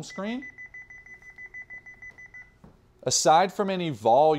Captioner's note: beeping